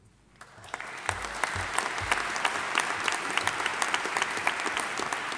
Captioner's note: audience applauding